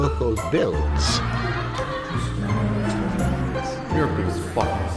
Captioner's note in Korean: 조롱 소리